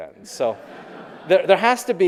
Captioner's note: audience laughing